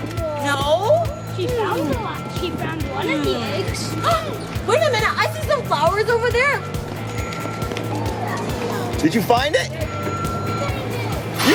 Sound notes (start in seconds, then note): 4.2 gasps